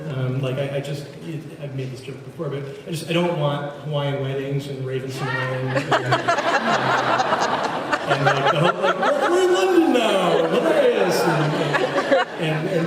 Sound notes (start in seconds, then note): 5.7 laughs